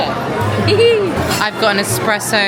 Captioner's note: giggles